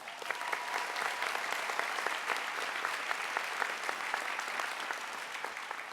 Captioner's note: applause